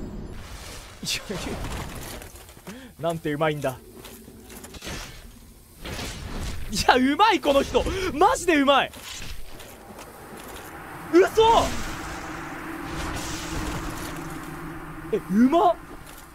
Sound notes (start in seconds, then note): 2.6 inhales; 7.8 inhales